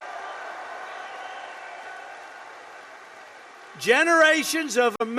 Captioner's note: applause